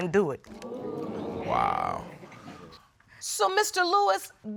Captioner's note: audience exclaiming